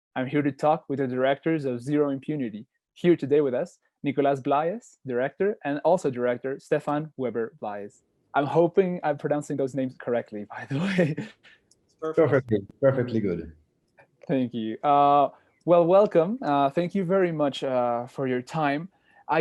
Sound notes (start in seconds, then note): 10.6 laughs